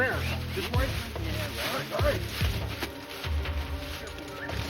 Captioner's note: leaves rustling